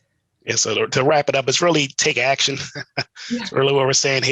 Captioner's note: laughs